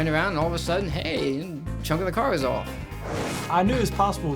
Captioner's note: screen whooshes